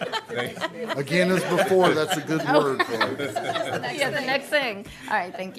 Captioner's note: laughter